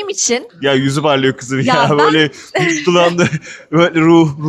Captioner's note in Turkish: kahkaha